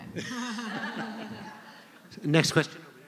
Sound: laughter

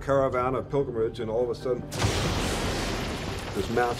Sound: lightning cracks

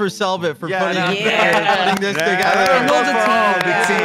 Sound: claps

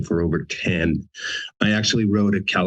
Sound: laughter

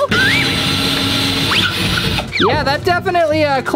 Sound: drilling sound

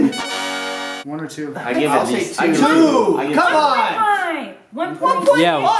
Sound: fanfare; overlapping chatter

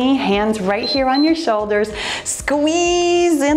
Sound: timer beeps

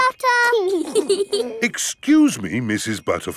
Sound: both giggling

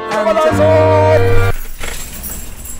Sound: sound of the door opening

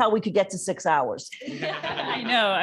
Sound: laughter

